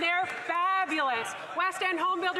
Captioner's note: some Applause